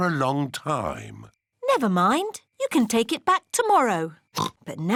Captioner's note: oinks